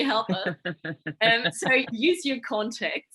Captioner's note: laughing